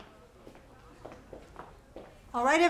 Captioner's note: hells clacking